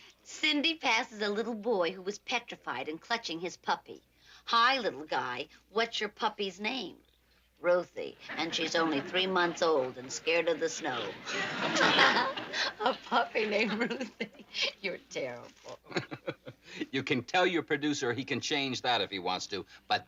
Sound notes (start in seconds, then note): 11.7 laughing; 15.6 chuckling